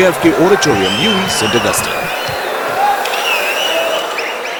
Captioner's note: wild applause and cheering for 22 seconds